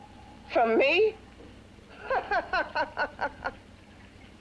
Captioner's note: laughs